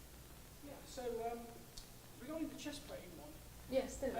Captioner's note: voiceover